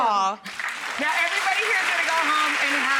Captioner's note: audience applauds